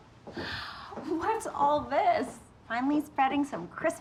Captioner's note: laughing